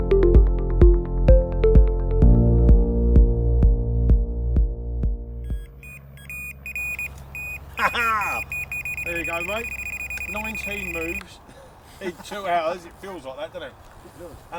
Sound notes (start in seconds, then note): 5.4 beeping; 7.7 laughing